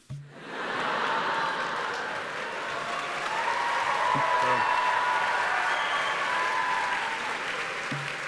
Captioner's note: cheers and applause; laughter